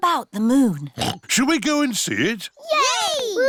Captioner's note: oinks